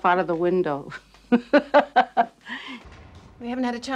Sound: disturbing laughter

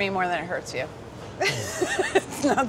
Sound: laughs

